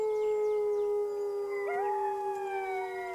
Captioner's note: howls